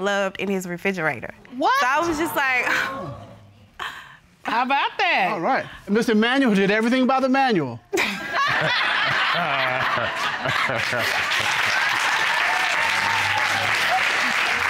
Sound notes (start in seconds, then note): 3.4 chuckles; 8.0 all laughing; 11.0 cheers and applause